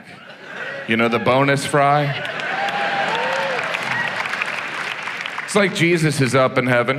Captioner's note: audience applauds